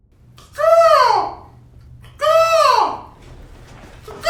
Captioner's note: imitating bird cawing